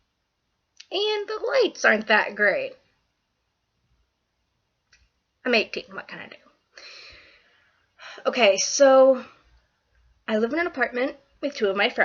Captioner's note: sigh